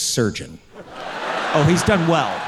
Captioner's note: audience cheering